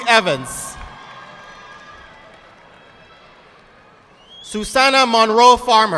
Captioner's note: audience clapping